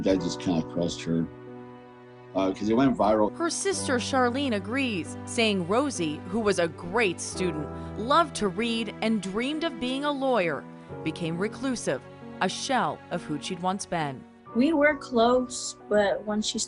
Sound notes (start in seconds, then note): none